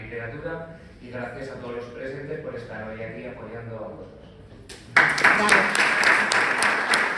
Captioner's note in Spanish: aplausos